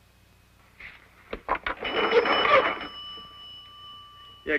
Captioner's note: ringing